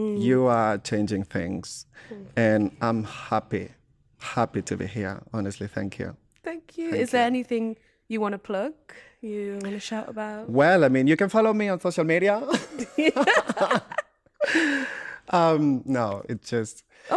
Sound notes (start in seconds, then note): 12.5 laughter